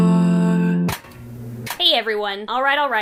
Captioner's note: film reel spins